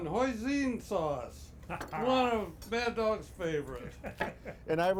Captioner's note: laughing